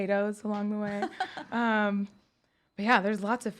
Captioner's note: laughs